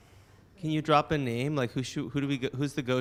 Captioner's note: voiceover